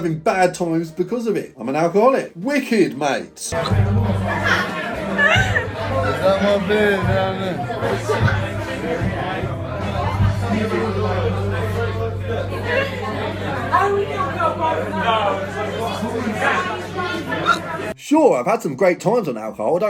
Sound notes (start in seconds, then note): 5.1 girl laughing; 11.0 crowd chattering